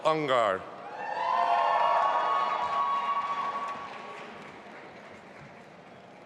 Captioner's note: audience applauding and cheering